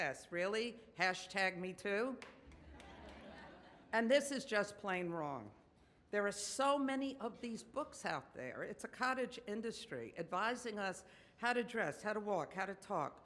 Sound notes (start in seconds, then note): 2.6 audience laughs